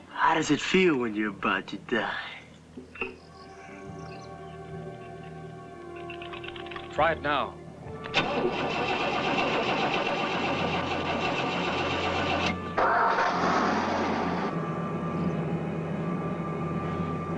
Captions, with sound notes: How does it feel when you're about to die? - Try it now. (engine sputtering) (tense instrumental music)